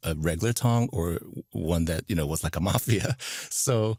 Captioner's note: chuckles